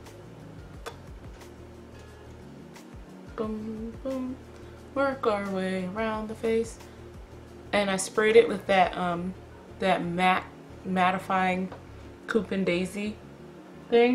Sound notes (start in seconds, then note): 0.8 kiss noise; 3.3 sing-song voice; 6.7 back to normal tone